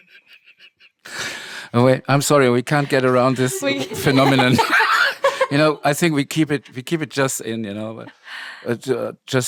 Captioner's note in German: lacht